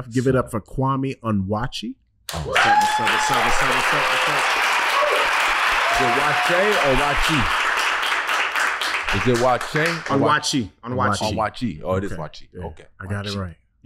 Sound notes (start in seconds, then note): 2.3 everyone applauding and cheering; 8.3 applause continues